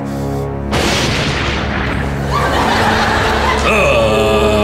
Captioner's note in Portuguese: trovão